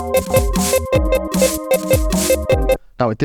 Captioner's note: beeping